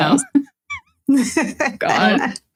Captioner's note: laughing